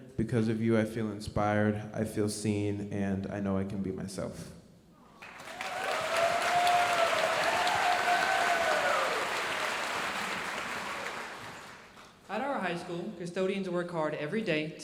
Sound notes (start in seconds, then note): 5.2 audience cheering and applauding